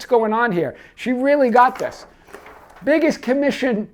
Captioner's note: paper rustle